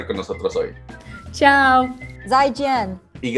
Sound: in Portuguese; in Mandarin; in Spanish

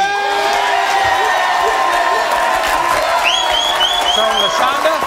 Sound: audience cheering

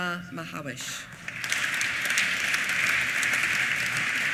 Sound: applause

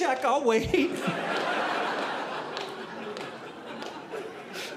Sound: audience laughing

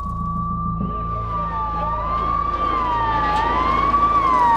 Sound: sirens wail

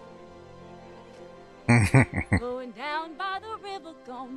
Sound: chuckling

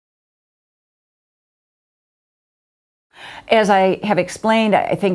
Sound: pause

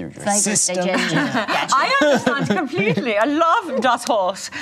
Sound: imitates German accent

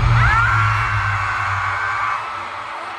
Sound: screams~~

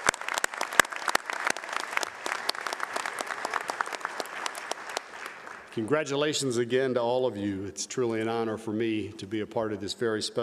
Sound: applause

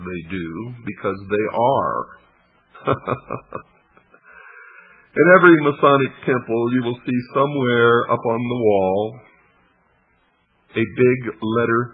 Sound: laughs

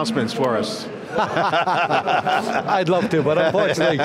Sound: laughing

